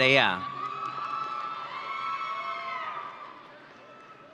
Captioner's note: audience cheering